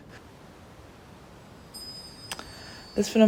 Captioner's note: wind chime